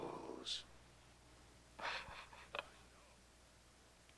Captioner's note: chuckles